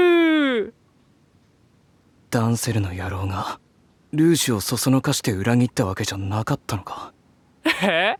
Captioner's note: surprised